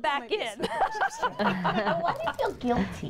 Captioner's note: laughing